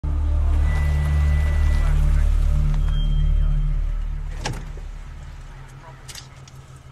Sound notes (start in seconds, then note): 0.5 car brakes